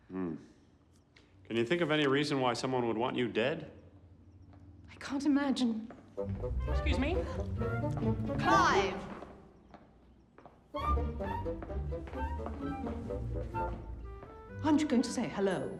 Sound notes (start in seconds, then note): 6.2 comedic music plays; 7.2 gasps